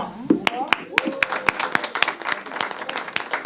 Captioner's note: clapping